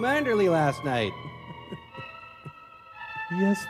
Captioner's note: chuckling